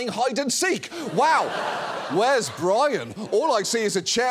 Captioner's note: studio audience laughs